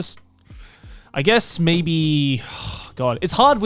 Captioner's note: sighs